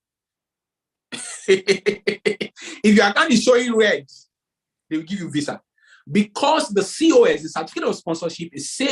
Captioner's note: laughs